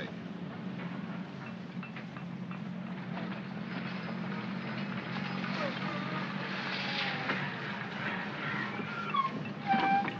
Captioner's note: city street sounds; brakes squeal